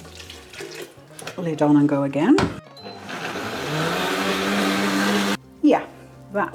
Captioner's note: blender roaring